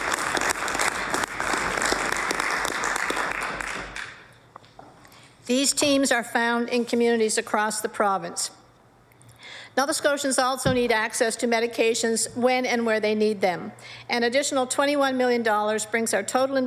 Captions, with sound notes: PRACTICE SUPPORTED WITH AN INVESTMENT OF 28.4 MILLION IN BUDGET 20-21. [APPLAUSE] >> TEAMS ARE FOUND IN COMMUNITIES ACROSS THE PROVINCE.